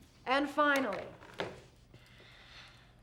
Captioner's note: people talking